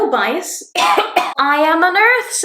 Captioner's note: coughs